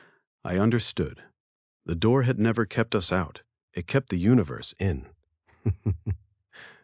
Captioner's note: laugh softly